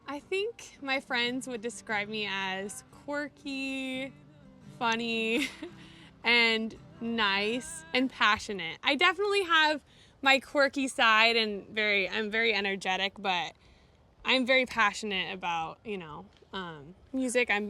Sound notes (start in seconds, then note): 5.3 chuckles